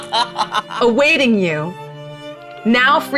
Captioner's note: laughing